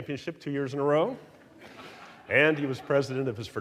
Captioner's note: audience laughing